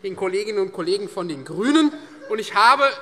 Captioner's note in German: Lachen